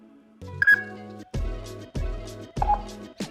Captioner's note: beeping